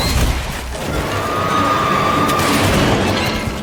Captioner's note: shrieks